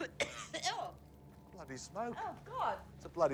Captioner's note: coughing loudly